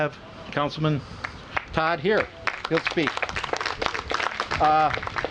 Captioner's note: applause